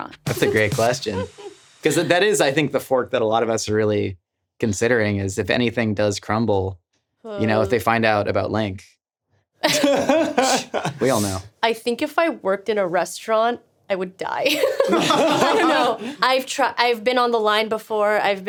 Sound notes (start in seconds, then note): 9.7 laughing; 14.5 all laughing